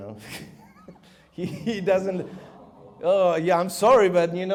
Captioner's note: audience gasps